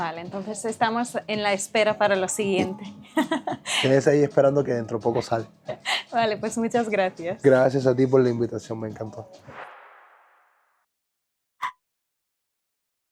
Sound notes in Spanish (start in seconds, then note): 5.1 laughs